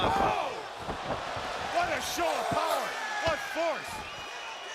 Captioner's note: crowd chatter